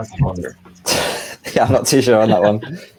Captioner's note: laughing